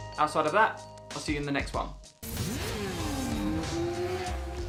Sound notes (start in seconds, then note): 2.2 motorbike engine roars